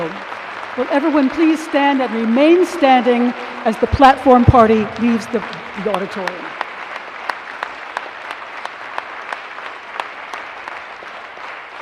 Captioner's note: applause